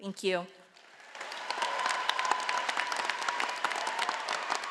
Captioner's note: audience applauding